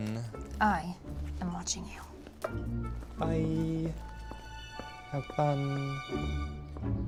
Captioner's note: none